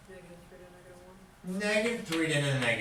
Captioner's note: voiceover